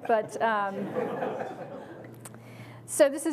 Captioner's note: audience laughs